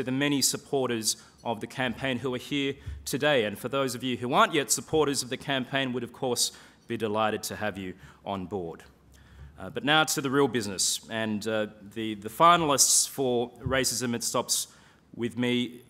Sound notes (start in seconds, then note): none